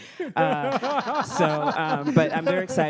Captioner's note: panelists laugh